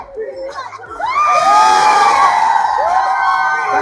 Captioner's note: loud cheering